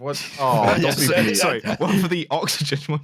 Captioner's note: laughs